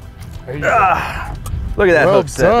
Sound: grunting

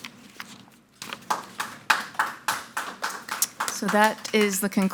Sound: audience applauding

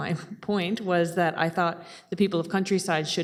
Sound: chuckling

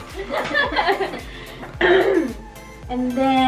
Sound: all laughing

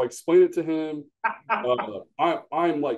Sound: laughs

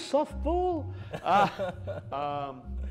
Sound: laughter

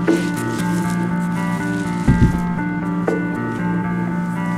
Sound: footsteps

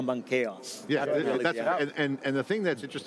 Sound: group speaking together

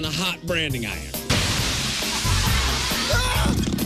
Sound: sizzling noise

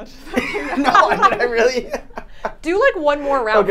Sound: all laughing

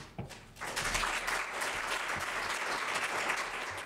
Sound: applause

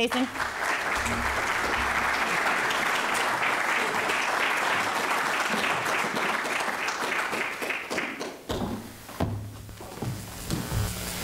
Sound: applause

